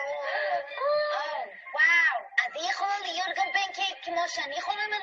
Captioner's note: speaking in a foreign language